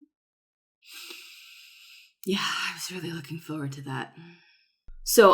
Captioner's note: long sigh, breathy